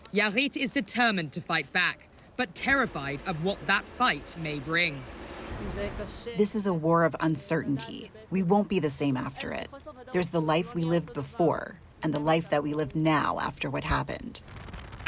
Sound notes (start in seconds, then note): 6.9 through translator